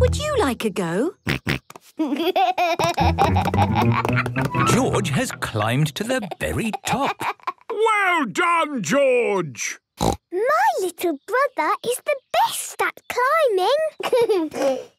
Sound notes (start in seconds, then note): 1.8 snorts, giggles; 10.0 snorts